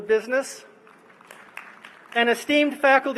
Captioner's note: applause